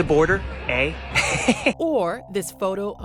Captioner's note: chuckling